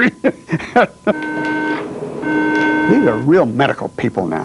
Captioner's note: laughs; beeping